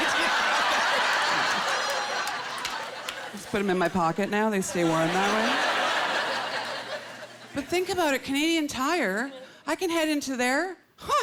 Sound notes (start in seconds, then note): 4.6 laughter